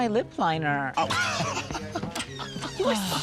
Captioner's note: chuckles